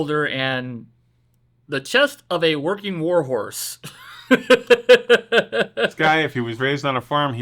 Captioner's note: laughs